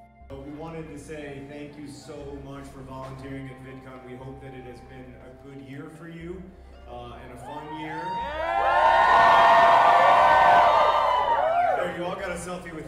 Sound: crowd cheer

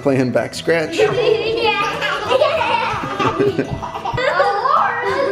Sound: kids giggling

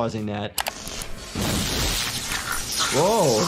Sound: electricity sparking

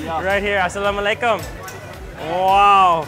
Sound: speaks in foreign language

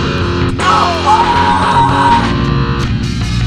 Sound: screams

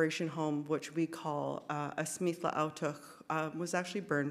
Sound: speaks in Sk1wx1wu7mesh

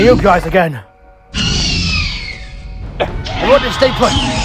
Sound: Raptor Squeals

